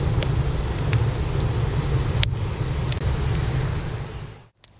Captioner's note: wood burning in a Japanese-made Chofu stove